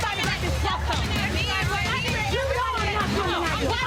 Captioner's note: people chattering